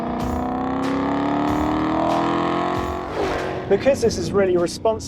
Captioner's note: engine revving